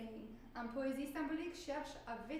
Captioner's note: speaking french